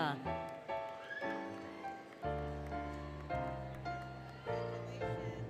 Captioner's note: applause, Cheering, Music; music, Indistinct Chatter